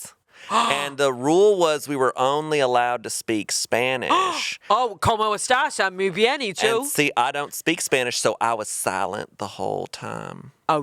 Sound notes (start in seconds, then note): 5.1 speaking in foreign language